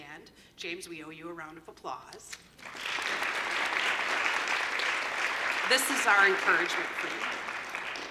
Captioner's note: applause